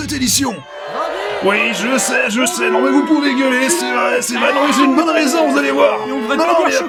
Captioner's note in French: Bruit de foule en colère